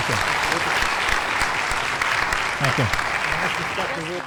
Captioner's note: applause